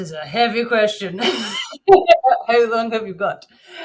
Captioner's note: laughing